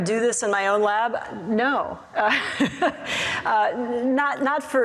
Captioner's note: laughs